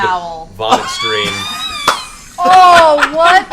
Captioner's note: laughter